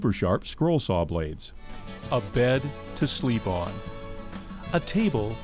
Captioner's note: voiceover